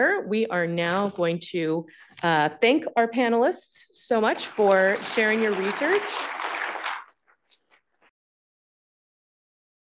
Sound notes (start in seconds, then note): 4.4 audience applauding